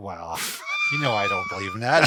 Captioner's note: laughs